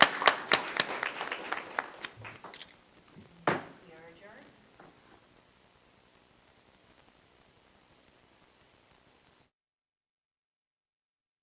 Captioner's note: applause